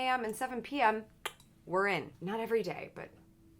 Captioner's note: clicks with mouth